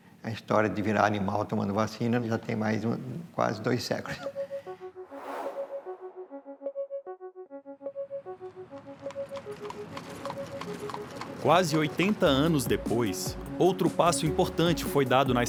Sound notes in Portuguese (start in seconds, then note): 4.1 eletrônica suave; 5.1 som de vento